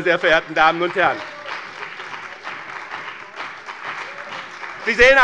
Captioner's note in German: Beifall bei dem BÜNDNIS 90/DIE GRÜNEN und der CDU